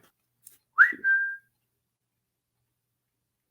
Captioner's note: whistles